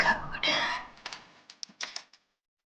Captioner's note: sighing